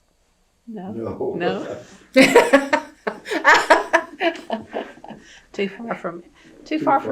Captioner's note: laughter